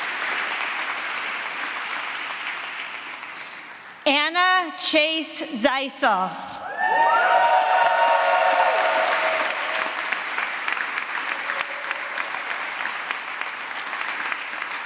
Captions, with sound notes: Anna Chase Zeisel. [APPLAUSE]